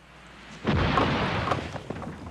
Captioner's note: crash